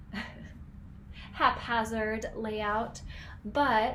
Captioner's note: chuckling